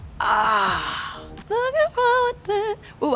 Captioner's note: groaning